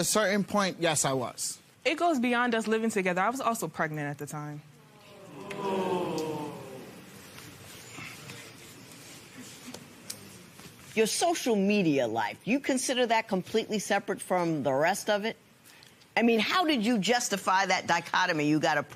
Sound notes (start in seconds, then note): 4.8 spectators groan